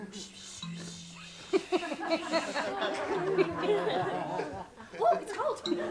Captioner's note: rather bad running water sounds; laughter